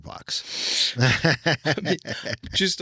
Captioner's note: laughing